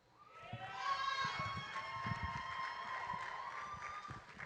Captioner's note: audience cheering